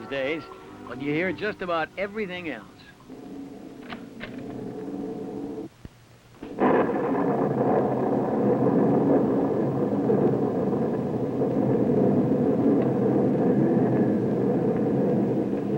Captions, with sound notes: coming from the radio building these days. But you'll hear just about everything else. [wind howls] [door clicks] [thunder rolls]